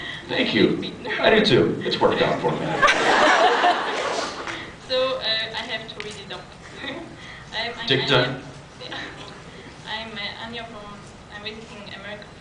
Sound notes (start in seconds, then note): 2.6 laughs; 6.7 laughs; 8.9 laughs